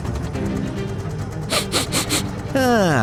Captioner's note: sniffs in russian